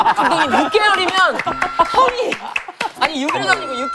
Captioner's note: #Laughing #To death